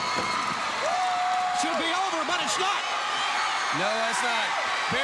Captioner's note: crowd cheering